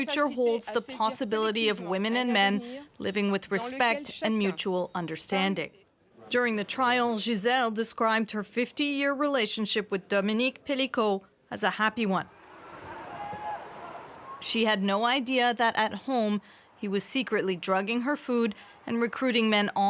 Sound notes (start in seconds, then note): 2.7 speaking French